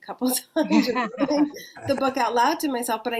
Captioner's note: laughs; chuckles